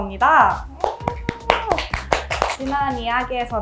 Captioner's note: clap clap~